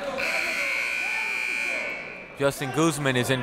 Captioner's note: buzzer